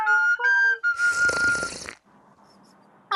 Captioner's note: slurps